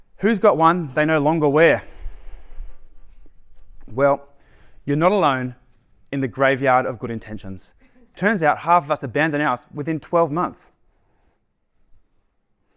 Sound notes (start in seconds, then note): 7.7 laughter